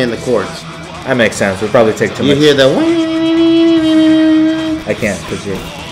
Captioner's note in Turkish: sesi taklit eder